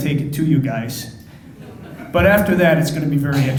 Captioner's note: crowd laughing